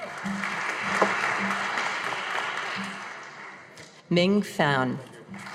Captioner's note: audience applauding